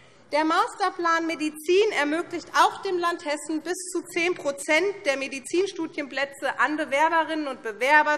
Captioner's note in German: none